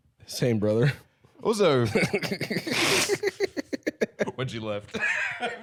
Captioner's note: both laughing; laughs